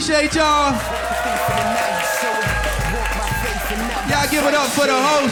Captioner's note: audience applauding; upbeat music